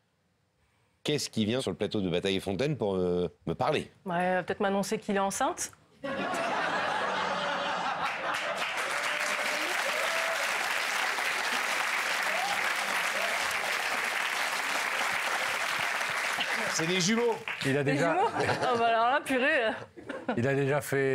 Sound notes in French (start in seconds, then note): 6.0 Rires; 9.1 Applaudissements